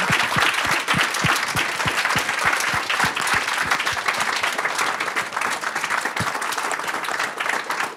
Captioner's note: applause